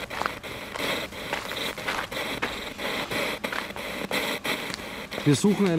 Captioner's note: radio noise from the spirit box